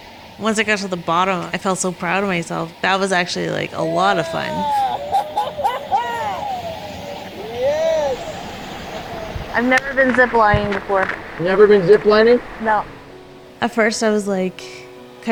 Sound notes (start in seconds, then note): 3.7 laughs and cheers; 13.7 slow inspirational music